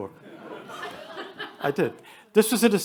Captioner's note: attendees laugh